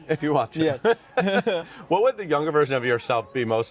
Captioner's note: both laugh